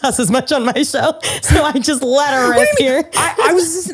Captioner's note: laughs